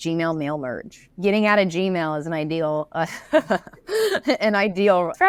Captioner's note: laughs